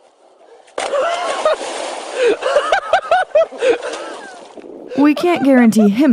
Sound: hysterical Laughter - Splash !!!

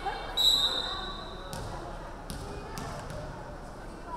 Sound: referee whistling

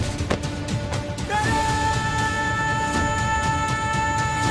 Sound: thump

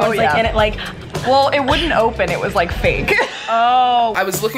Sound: laughs

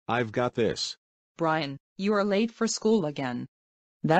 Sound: imitating Dora

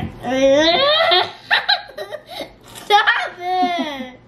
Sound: yelling; laughing

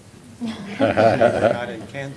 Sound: laughter

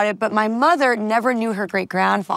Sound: none

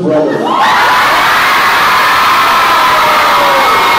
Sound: loud cheers

